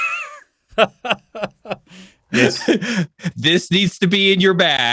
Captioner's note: laughs